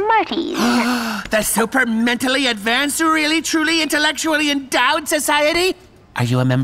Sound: gasps

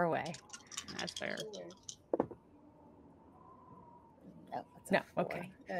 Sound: dice clacking

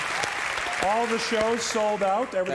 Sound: Conan claps

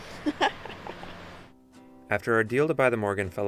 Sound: laughing

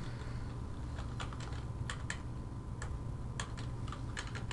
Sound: typing

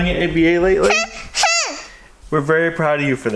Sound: vocalizing

